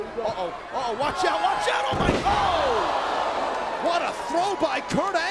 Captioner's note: mat thumping